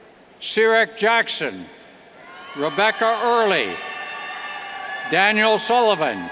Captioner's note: cheers